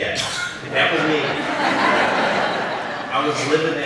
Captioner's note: laughter